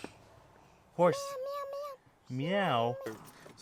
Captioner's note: meows